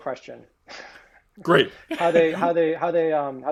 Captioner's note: chuckling